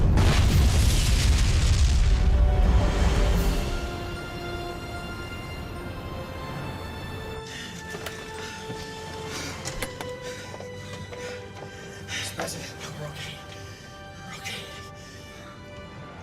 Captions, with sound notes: [GASPING] MR. PRESIDENT? WE'RE OKAY. WE'RE OKAY.